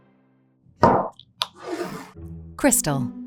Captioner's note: bottle thuds and scrapes